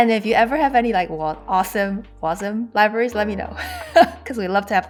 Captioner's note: laughs